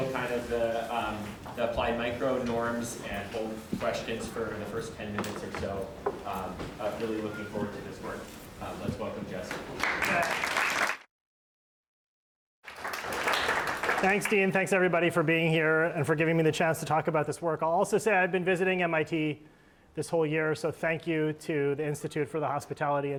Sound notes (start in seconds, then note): 9.5 applause